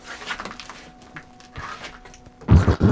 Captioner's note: crackling debris; low rumbling